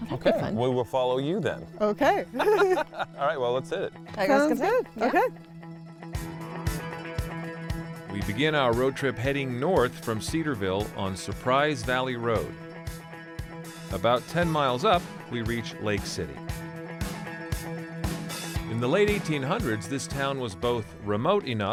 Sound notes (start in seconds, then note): 2.0 chuckles; 2.2 laughs